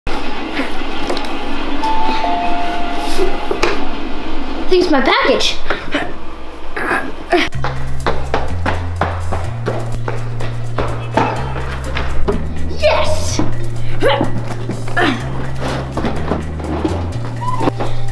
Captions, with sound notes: (doorbell rings) - I think it's my package. (footsteps) Yes!